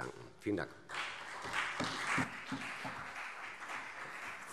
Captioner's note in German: Beifall CDU und BÜNDNIS 90/DIE GRÜNEN